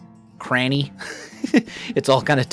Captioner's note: laughs